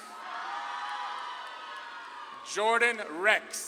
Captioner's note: audience claps and cheers